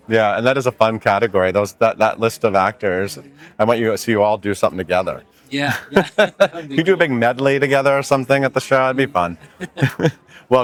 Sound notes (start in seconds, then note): 5.7 laughs; 9.3 chuckles; 9.4 laughs